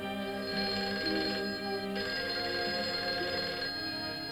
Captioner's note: phone rings